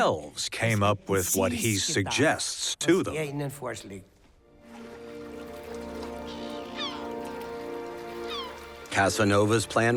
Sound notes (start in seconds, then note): 4.6 water lapping and seagulls squawking